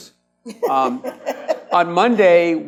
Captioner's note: laughs